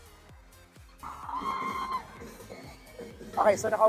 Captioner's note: fans screaming